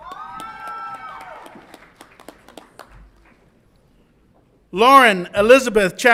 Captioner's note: audience applauds and cheers